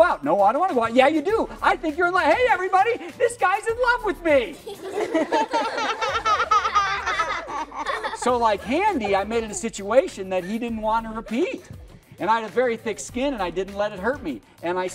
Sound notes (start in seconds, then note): 8.4 laughter